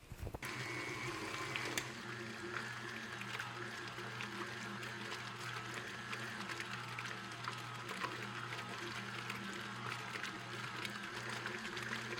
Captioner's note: click, then very sloshy whirring